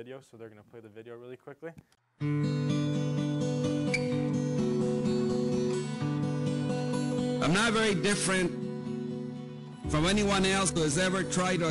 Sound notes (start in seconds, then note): 2.2 gentle guitar music; 7.4 César Chávez, voiceover